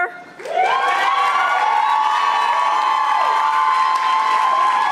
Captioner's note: audience applauding